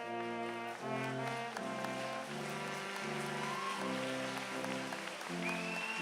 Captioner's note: applause